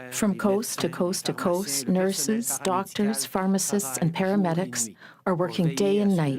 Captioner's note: speaking french